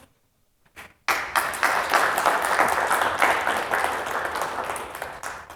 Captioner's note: applause